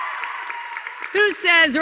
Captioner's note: applause